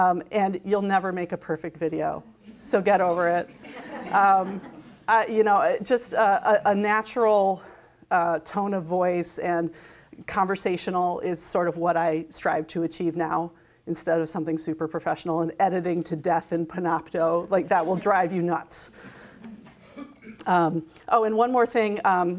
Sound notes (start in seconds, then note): 3.5 crowd laughs; 17.8 crowd giggles